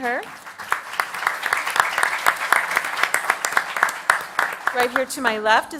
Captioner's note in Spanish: Aplausos